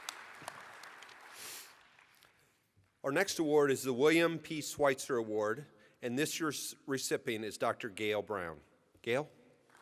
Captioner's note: applause